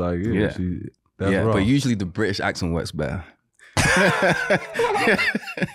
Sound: laughs

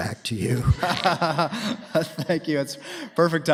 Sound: laughter

